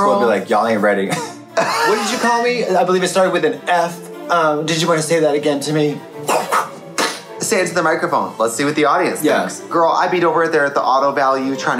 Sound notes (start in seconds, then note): 1.6 Trixie laughing; 6.5 Katya making explosion sound effect